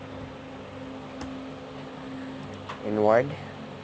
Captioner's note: mouse click